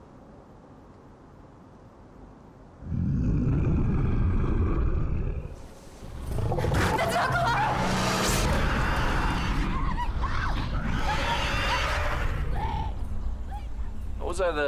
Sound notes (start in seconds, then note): 2.8 growling; 8.4 screaming and roaring